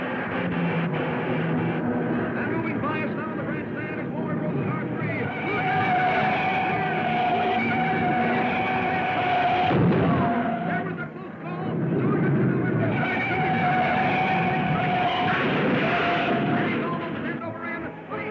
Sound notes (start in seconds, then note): 6.0 tires screeching; 10.3 car crashing; 13.4 tires squealing; 16.0 car crashing